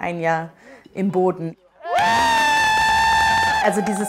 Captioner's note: cheers